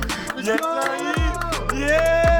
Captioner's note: clapping